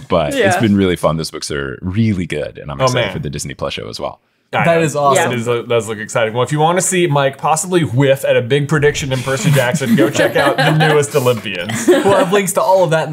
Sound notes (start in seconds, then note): 9.2 laughing